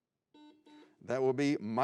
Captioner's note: buzzing